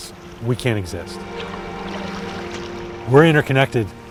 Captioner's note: paddling sounds